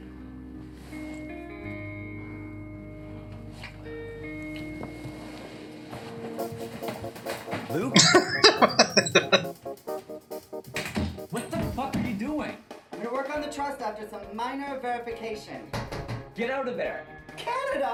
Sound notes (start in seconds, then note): 7.7 laughing